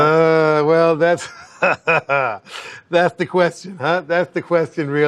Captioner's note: laughs